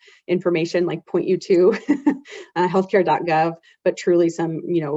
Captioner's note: chuckles